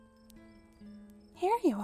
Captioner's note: distant cheerful voices, guitar music, and fire crackling; crickets